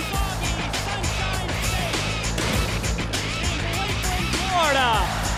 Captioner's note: crowd cheering